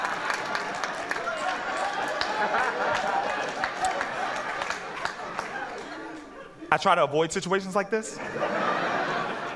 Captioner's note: laughter